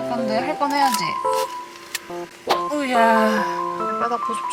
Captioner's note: sighs